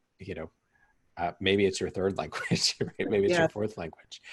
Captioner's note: chuckles